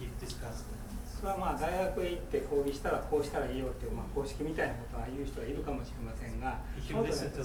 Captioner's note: speaking in foreign language